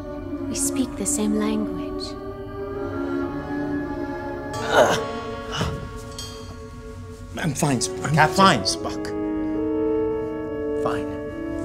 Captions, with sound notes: We speak the same language. [GROANS] - I'm fine. - Captain? - I'm fine, Spock! I'm fine.